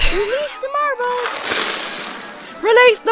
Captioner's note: laughs; marbles clatter